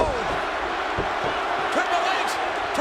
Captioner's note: crowd booing